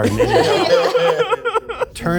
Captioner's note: group laughs